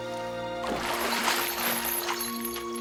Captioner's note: chains rattling